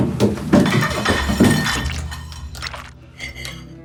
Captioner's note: plate clinking